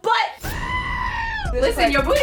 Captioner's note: scream